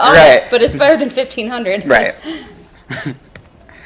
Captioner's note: laughs